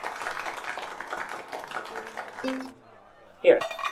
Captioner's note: applause